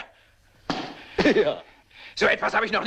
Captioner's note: stamps floor